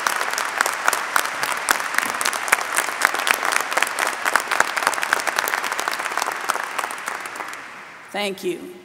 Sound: applause

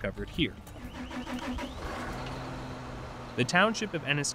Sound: engine revving

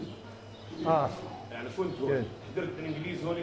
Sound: Arabic

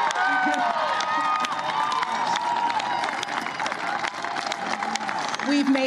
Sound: cheers and applause

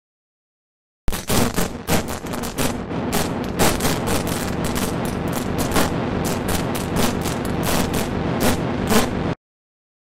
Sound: sound of electric spark

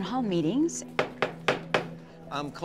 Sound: golpeteo de gravilla

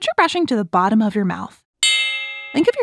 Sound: switch bell

